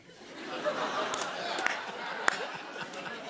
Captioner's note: laughter